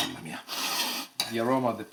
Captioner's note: speaks in foreign language; inhales strongly